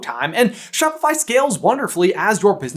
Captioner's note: none